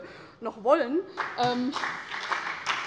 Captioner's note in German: Beifall bei der CDU und dem BÜNDNIS 90/DIE GRÜNEN